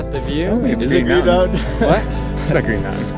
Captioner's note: laughs